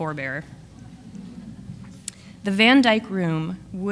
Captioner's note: audience laughs